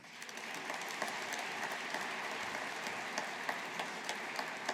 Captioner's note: audience applauding